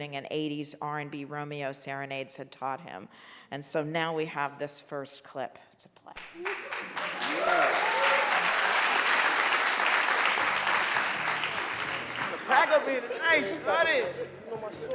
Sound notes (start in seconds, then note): 6.3 audience cheering and clapping